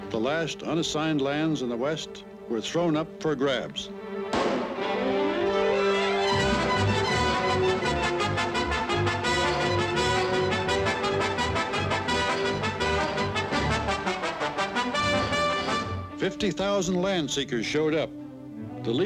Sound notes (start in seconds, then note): 4.3 gunshot booms